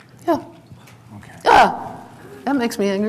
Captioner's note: barks